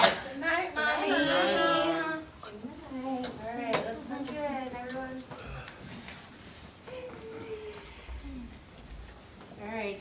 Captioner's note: group response